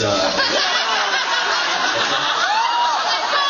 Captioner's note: laughs and groans